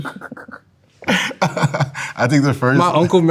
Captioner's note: laughing